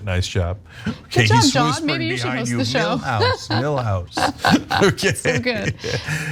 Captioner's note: laugh